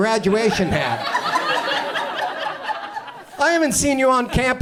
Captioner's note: audience laughs